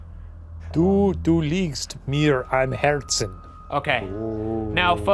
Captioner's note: Shane speaking in German